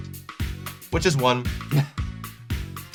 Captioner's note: chuckles